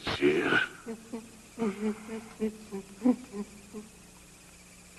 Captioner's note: wheezing